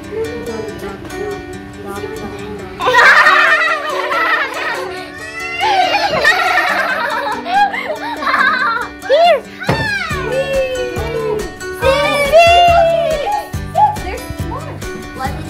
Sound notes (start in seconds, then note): 2.7 laughing